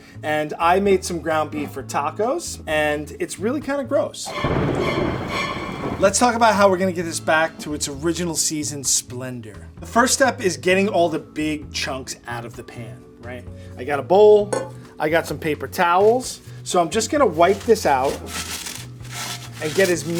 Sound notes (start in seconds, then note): 4.2 scary dramatic music; 4.3 thunder booms